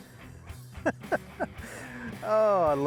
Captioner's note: laughing